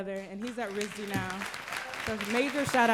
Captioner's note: applause